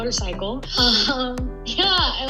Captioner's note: gasps